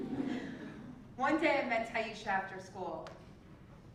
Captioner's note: laugh